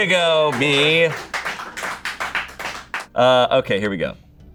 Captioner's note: audience applauding